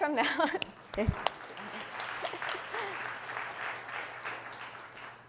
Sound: audience applauding

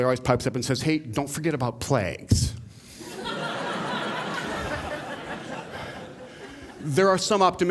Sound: laughter

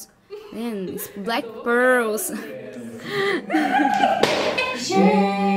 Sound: laughing

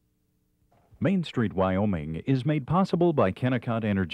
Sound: voiceover

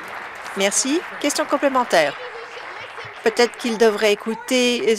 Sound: applause

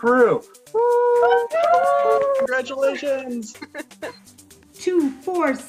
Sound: laughter

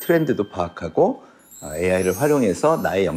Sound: sparkling sound effect

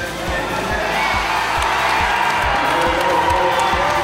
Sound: cheers

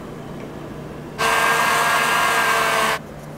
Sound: vroom

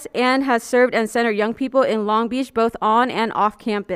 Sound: none

